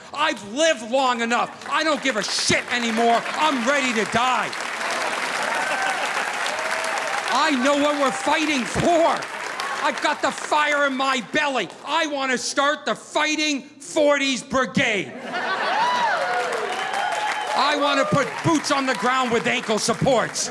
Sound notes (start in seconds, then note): 5.1 audience applauding; 15.2 crowd cheering